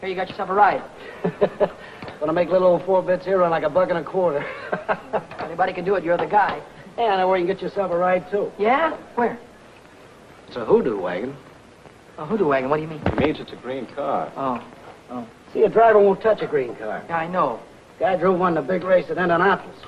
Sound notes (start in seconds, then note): 1.0 happy chuckling; 4.4 happy laughing